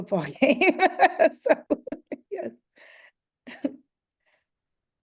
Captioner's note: laughter